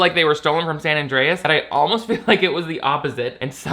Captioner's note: laughs